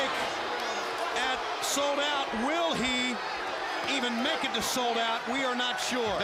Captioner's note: crowd chatter